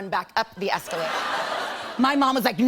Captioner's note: laughter